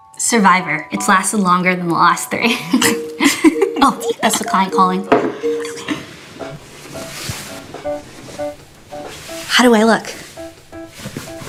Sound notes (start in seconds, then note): 2.7 both laughing